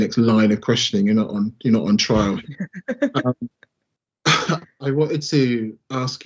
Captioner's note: laughing